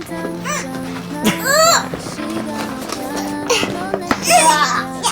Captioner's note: shiver